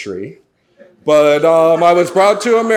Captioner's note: audience laughs